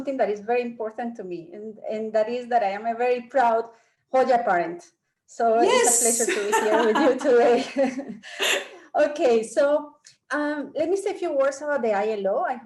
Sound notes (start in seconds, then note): 6.1 laughing